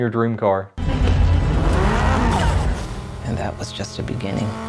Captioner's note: car engine revving